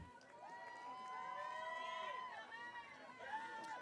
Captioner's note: audience cheering